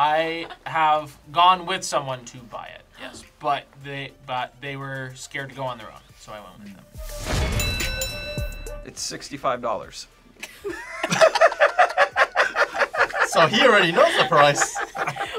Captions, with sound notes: - I have gone with someone to buy it, yes. But they were scared to go on their own, so I went with them. (bell rings) - It's $65. (group laughs) - So he already knows the price.